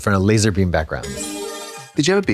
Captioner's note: bright chime